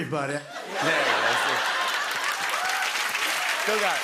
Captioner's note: cheers and applause